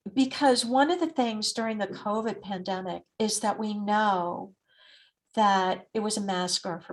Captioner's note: none